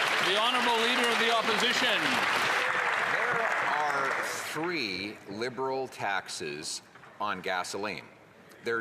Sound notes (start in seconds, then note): 4.4 some Applause